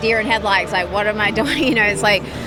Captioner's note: laughs